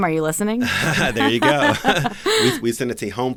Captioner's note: laughs